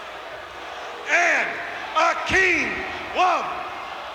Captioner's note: crowd cheers